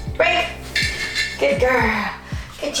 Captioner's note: dish clatters